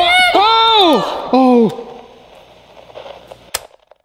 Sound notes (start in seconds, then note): 2.7 sounds of static